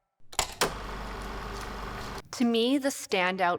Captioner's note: film reel flapping